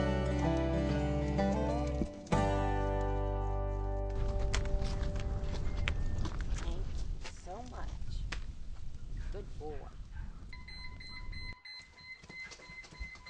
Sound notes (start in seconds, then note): 5.9 says softly; 10.5 phone beeping